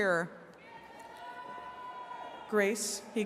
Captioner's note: attendees cheering